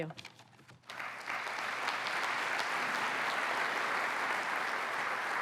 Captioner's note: applause